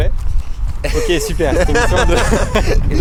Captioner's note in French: rires